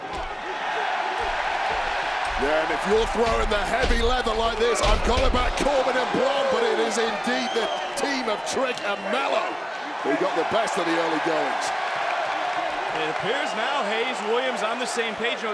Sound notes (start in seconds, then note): 0.1 crowd cheering; 11.9 crowd cheering